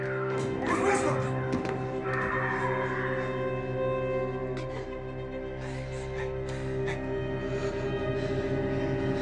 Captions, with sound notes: - Miss Prescott? (Mya shrieking) (eerie music) (Jane gasps) Hey, hey, hey.